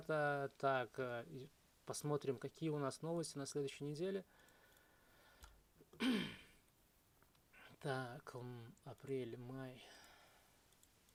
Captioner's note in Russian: откашливается